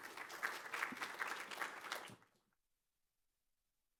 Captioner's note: audience applauding